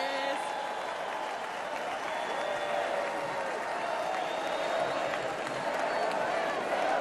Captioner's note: cheers and applause